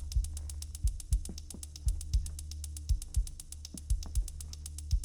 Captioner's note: footsteps clacking